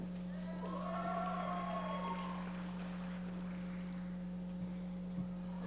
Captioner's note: audience members applauding